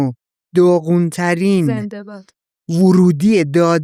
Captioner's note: laughs